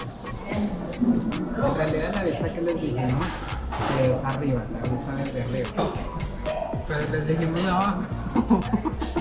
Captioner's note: laughs